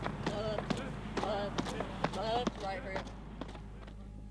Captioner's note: chants